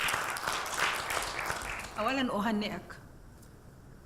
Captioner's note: audience applauding